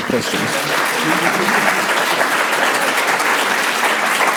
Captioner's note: audience applauds